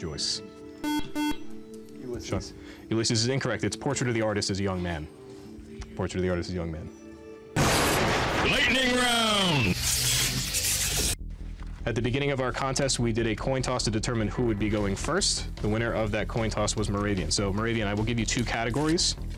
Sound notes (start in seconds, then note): 0.8 beep; 7.8 intense male voice